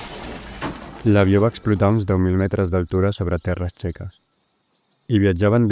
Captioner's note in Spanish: pájaros asustados